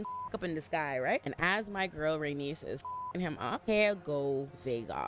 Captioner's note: beep; beep